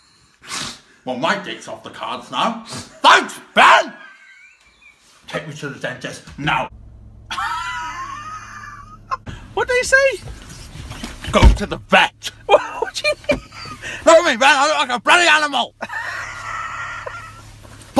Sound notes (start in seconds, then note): 7.2 Ben laughing; 12.4 laughes; 15.8 Ben Laughing and Wheezing